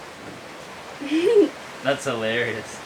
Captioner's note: laughs